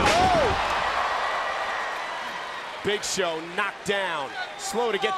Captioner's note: applause